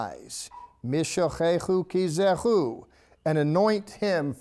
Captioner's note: speaking in Hebrew